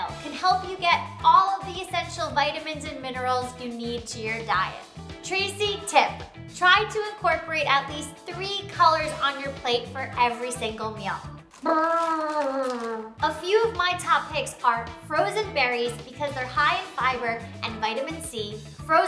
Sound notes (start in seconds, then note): 11.4 blows raspberry